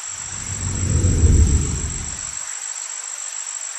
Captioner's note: whoosh